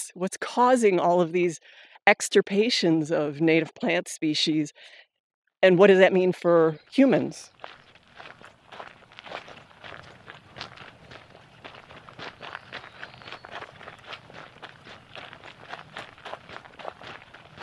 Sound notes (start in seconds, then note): 8.5 footsteps crunching on gravel